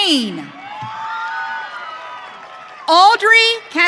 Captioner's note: audience cheering